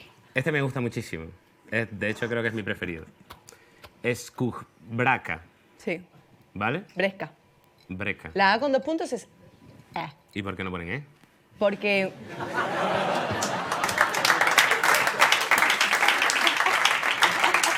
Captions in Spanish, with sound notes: Este me gusta muchísimo. De hecho, creo que es mi preferido. "Eskujbraka". Sí. ¿Vale? "Breska". "Breska". La a con dos puntos es... ¿Y por qué no ponen e? Porque... (Risas y aplausos)